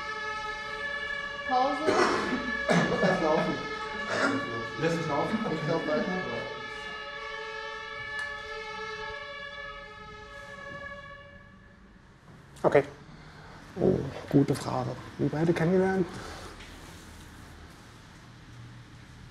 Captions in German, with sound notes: *Gemurmel vom Filmteam im Hintergrund, husten.* *Martinshoerner klingen aus* OK! Oh gute Frage! Wie haben wir uns kennengelernt?